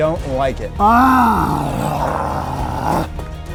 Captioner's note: grunts